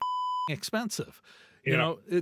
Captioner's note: beep